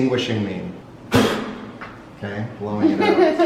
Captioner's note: blowing